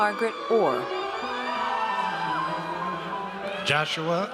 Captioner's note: audience cheers